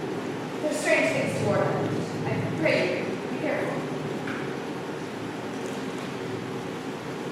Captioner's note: door opens offscreen